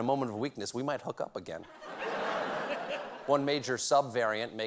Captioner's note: laughter